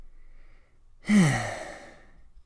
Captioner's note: sigh